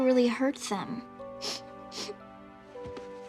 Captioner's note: sobbing